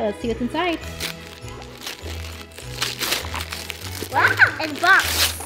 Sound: joyful Christmas music; wrapping paper ripping

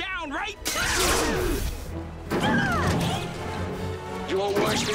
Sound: lazer whooshes, glass breaks

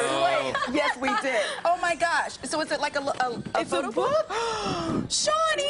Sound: laughter

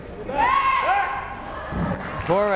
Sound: fans shouting

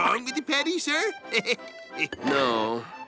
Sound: chuckles

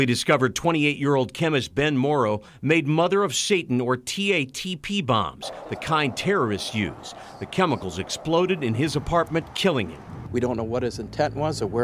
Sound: sirens

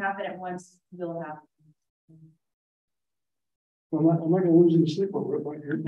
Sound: laughs

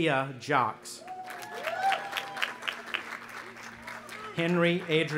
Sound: audience applauding and cheering

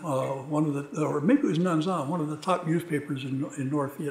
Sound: speaking a foreign language; speaking a foreign language

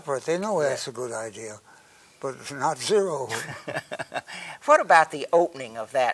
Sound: laughs

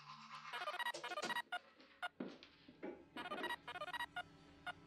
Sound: cell phone chiming

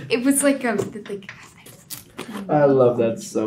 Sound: whispers

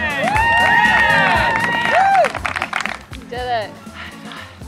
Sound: cheering

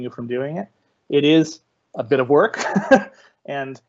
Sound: laughing

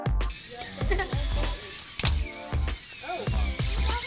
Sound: electronic whirring

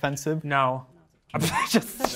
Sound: participants chuckling

